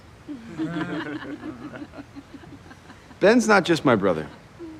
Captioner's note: crowd laughs